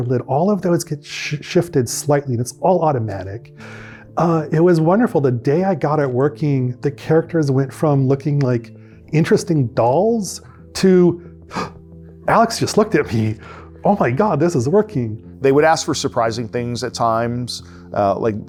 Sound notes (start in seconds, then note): 11.2 gasps